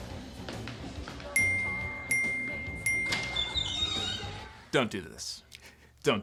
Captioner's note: bell chiming